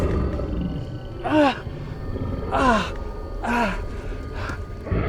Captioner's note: werewolf growling; Robert groaning